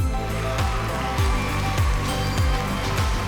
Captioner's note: cheering